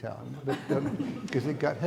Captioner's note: audience laughing